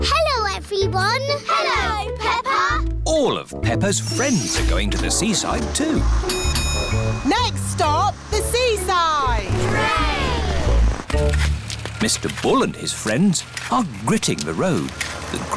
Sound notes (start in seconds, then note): 6.2 bell dings